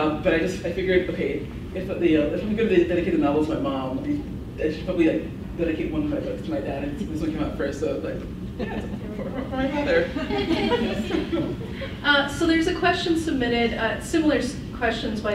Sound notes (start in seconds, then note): 10.4 laughs